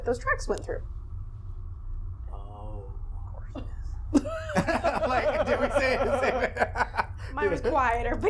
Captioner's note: laughing